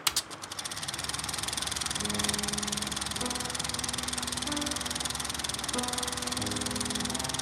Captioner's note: projector reels spinning